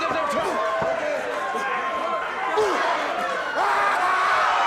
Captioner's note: audience cheers